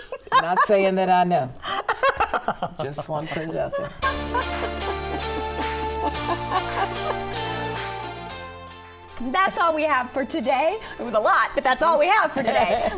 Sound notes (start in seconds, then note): 3.9 upbeat music; 4.0 group laughing